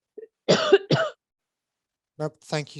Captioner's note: coughs